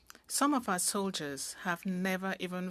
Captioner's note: speaking french